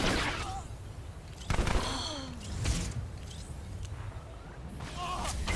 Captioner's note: gun firing